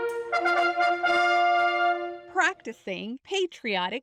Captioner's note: horns